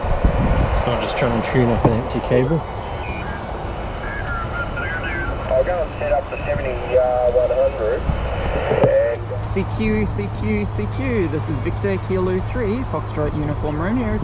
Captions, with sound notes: It's not just trying to tune up an empty cable? [distorted off-tune SSB voice] [radio] I'll go and set up the 7100. CQ CQ CQ this is Victor Kilo Three Foxtrot Uniform Romeo